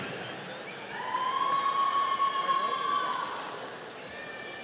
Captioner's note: audience cheering